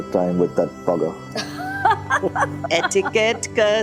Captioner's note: laughing